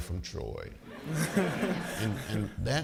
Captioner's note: audience laughing